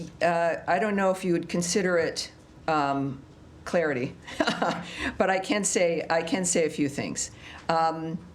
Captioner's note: laughter